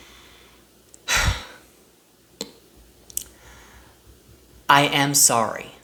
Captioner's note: sigh